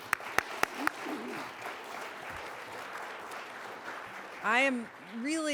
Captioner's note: audience applause